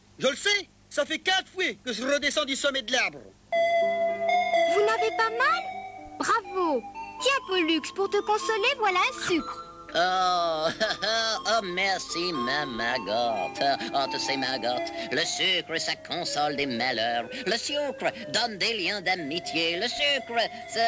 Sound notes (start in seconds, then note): 10.3 chuckles